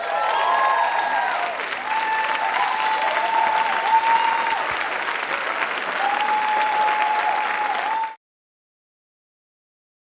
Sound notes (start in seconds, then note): 0.0 applause